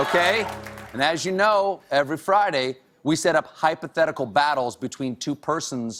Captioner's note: cheers and applause